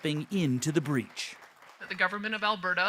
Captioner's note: applause